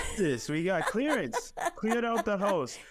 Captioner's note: laughing